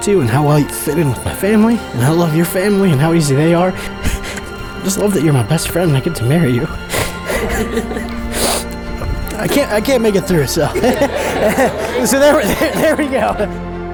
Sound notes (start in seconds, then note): 7.3 sniffs; 7.8 laughs